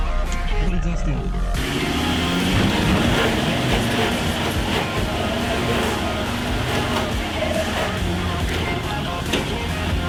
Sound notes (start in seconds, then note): 5.5 engine roaring